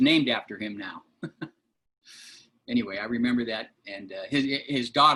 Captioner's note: laughter